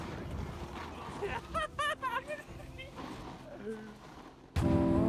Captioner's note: laughing happily